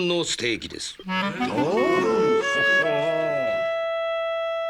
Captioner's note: murmuring